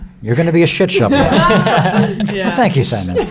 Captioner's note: everyone laughing